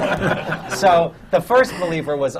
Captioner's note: laughter